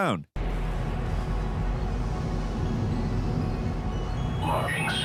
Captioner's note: electronic whirring